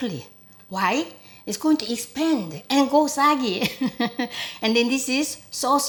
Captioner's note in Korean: 웃음소리